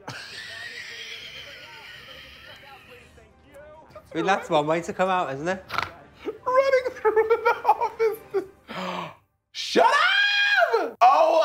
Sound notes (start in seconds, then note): 0.0 laughing; 5.6 snorting; 6.1 laughing; 8.6 gasping